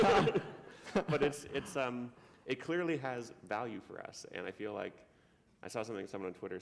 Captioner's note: laughter